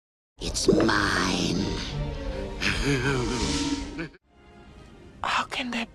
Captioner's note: laughter